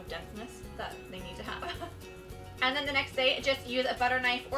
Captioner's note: laughs